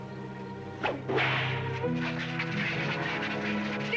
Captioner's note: cracking whip